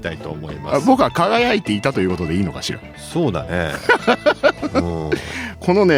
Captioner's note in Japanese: 笑い